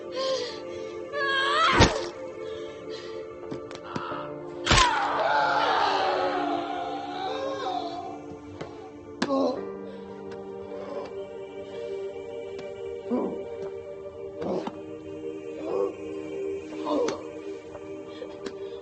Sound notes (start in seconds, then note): 4.6 bones cracking; 4.6 LaFleur screaming; 7.2 soft music continues